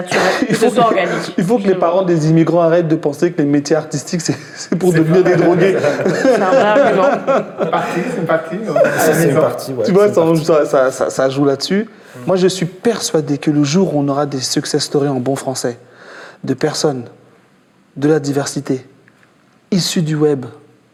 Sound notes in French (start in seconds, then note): 10.3 rires